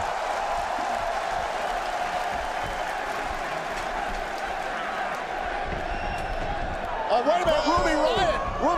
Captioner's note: crowd cheering